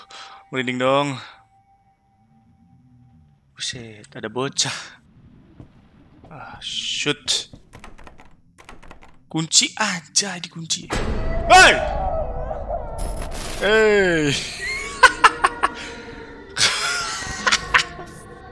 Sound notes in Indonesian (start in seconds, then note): 11.9 tangis bayi; 14.2 ketawa